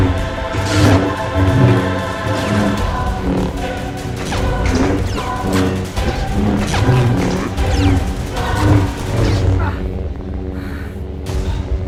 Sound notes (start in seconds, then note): 0.0 clashes, "snips," and "chirps" of lightsaber blades